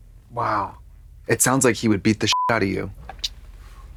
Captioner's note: beep